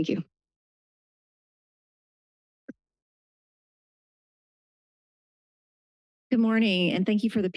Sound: silence

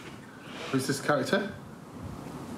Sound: recording of voice

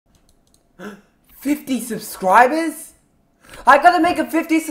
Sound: gasp

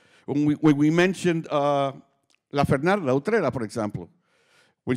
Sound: speaking Spanish

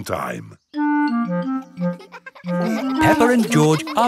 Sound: children laughing

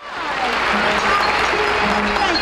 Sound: audience applauding

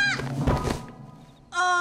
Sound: girl screams

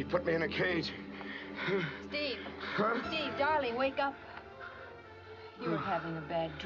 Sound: groaning

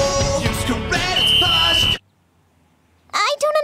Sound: whistling

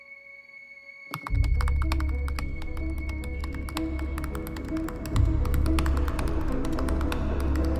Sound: suspense music; tab clicks; uptempo music

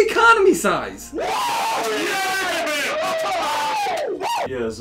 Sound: men cheering

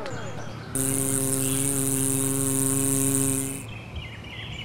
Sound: engine sound

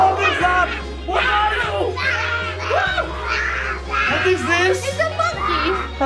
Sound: screams

